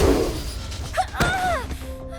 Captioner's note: explosion; Terra yells